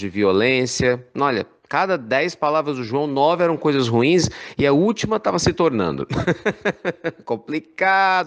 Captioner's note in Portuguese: risadas